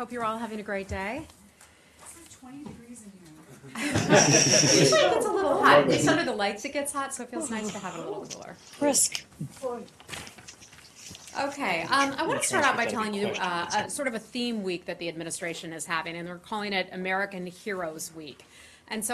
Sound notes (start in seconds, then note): 3.7 laughter